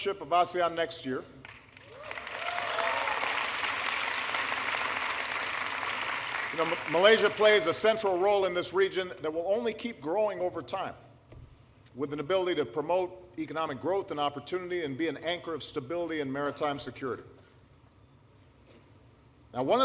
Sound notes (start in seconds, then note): 4.2 applause